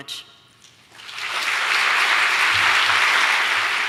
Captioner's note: applause